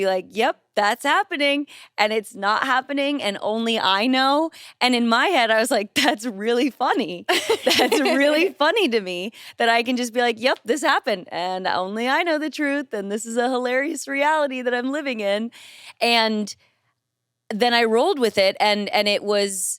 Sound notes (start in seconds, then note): 7.3 chuckles